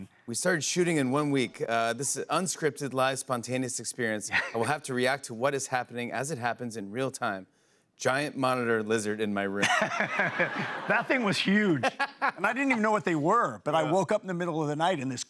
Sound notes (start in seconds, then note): 9.6 Jeff laughs